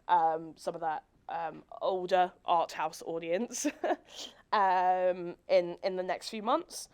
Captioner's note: chuckles